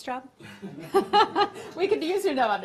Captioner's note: laughter